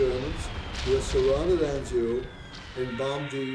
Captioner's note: bombs dropping